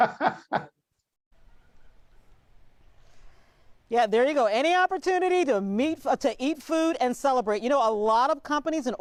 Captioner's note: laughter